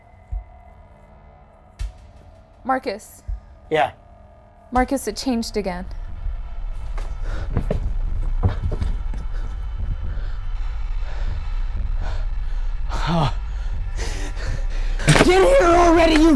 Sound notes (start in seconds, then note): 6.5 footsteps and panting; 11.3 screaming